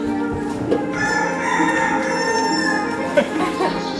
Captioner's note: rooster Crow